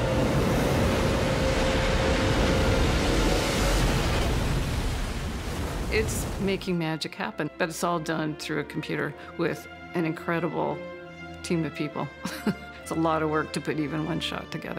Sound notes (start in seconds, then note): 4.8 intense dramatic music; 4.8 waves crashing; 12.2 chuckles